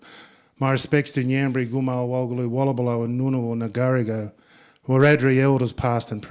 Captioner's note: speaking in Ngunnawal